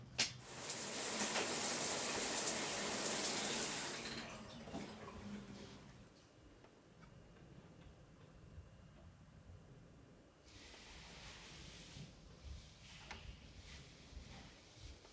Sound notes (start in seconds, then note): 0.4 shower running